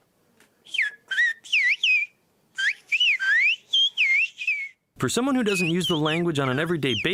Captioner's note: through translator